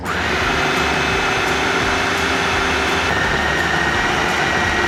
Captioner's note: food processor whirring